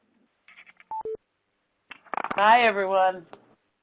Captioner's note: beeping